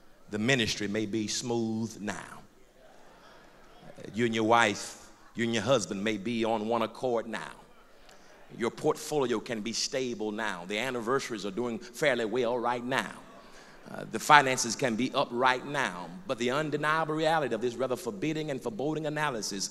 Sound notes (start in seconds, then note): 2.6 crowd murmurs